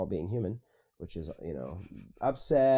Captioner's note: laughing